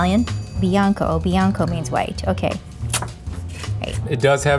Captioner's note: tongue suck